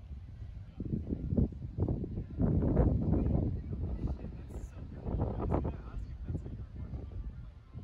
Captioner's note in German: Wind weht